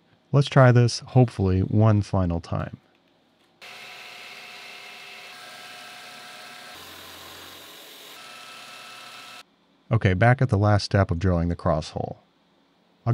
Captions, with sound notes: Let's try this hopefully one final time. (machine whirling) Okay, back at the last step of drawing the cross hole.